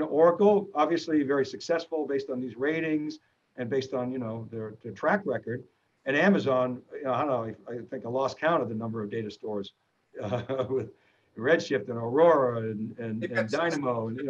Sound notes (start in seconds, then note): 10.2 chuckles